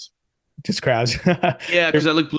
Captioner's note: laughing